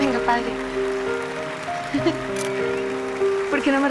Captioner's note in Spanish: Ríe